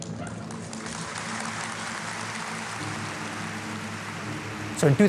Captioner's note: applause